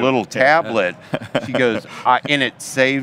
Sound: laughs

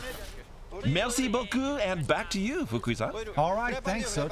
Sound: non-english speech

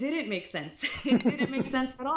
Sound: laughter

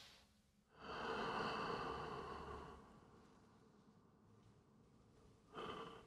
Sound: man breathing deeply

